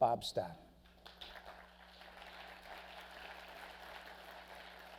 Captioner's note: crowd clapping